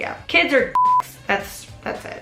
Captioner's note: beep